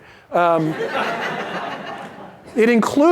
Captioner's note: laughter